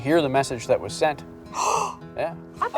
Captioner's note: gasp